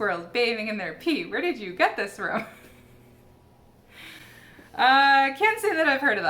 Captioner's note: laughs